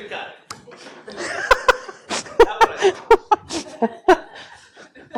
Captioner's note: laughter